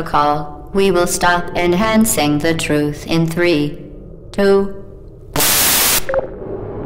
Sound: static

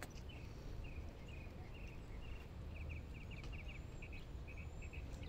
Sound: peaceful birdsong footstep on gravel; mockingbird chirping nearby; bird plops in lagoon Birdsong all around

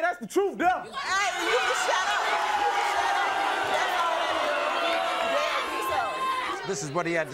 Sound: audience boos

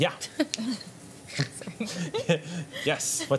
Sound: laughter

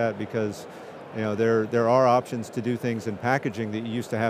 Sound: none

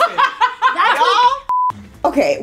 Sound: woman laughs; beeping sound

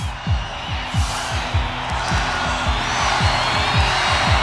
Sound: crowd cheering

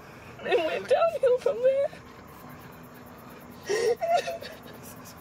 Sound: cries

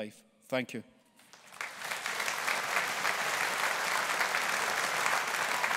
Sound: audience applauding

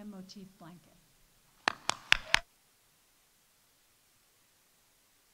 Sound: audience applauding

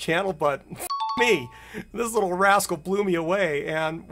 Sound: bell dings

